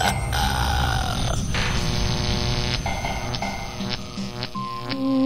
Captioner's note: electrical sounds